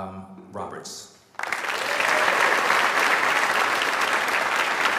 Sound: audience applauds

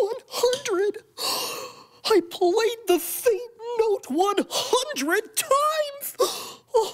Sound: gasps

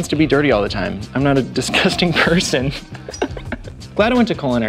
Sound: laughing

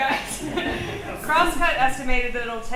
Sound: group laughs

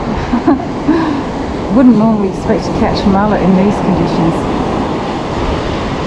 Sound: laughs

